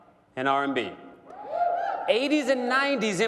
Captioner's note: cheering